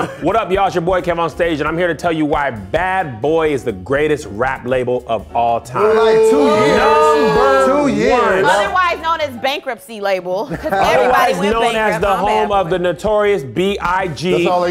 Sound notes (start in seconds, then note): 5.8 booing